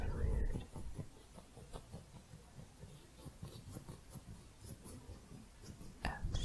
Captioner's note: faint scissors sounds